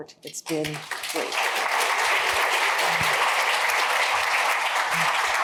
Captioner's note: applause